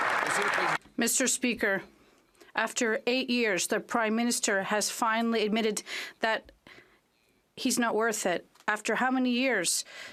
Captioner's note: some Applause